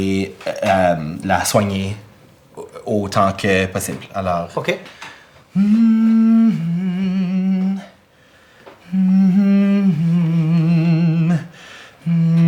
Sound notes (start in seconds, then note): 5.6 Riz'shar hums a lullaby